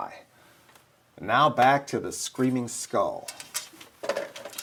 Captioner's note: none